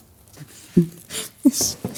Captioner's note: laughing